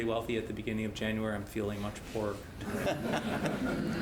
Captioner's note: laugh